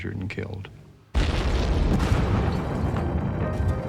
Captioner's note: explosion